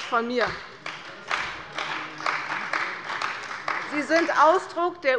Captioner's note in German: Beifall bei der CDU